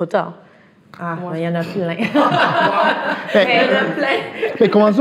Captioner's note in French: rires